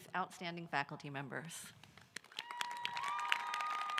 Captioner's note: applause